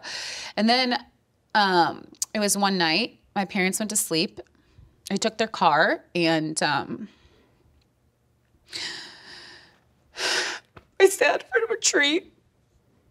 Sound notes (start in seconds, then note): 8.7 inhales deeply